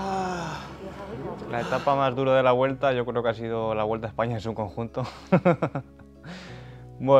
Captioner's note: laughing